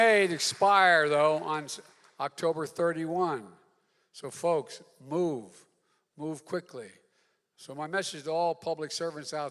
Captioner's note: applause